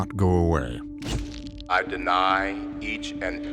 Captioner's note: shutter clicks